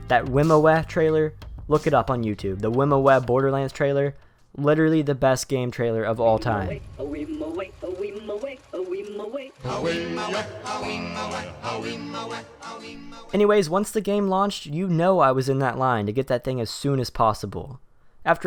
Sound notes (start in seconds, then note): 13.4 voiceover